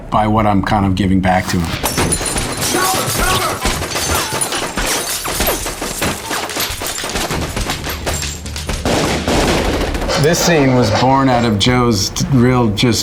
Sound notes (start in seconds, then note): 1.4 glass shatters; 3.0 bullets firing; 8.8 gun firing